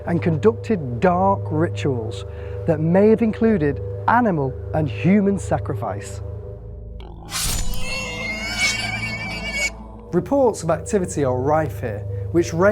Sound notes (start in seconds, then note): 7.1 pig squealing; 7.2 blade slicing; 7.3 pig snorting